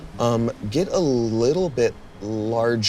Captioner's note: none